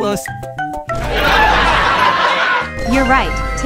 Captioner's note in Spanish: Risas